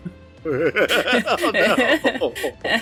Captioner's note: laughter